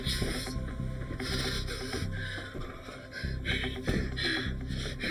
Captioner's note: Eric panting